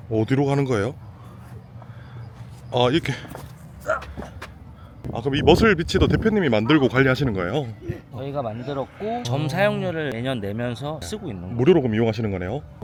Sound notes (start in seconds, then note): 3.8 grunts with effort!